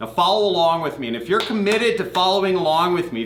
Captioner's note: clapping